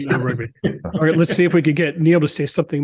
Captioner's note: laugh